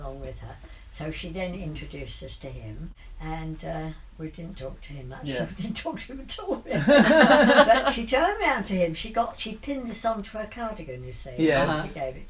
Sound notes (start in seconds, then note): 6.6 laughs